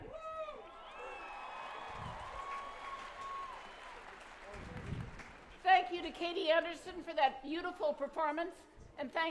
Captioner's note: applause